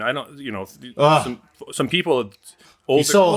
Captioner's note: sighing